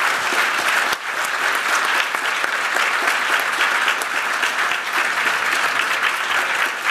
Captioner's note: applause